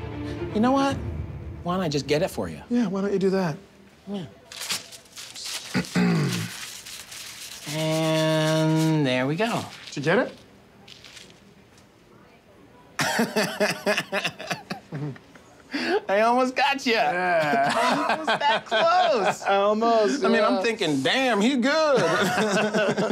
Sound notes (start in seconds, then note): 13.0 laughing; 22.0 both laughing